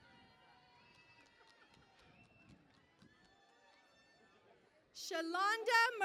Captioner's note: cheering and Applause